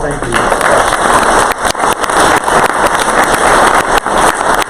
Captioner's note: crowd applause